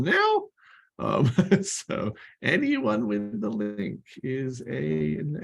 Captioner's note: laughter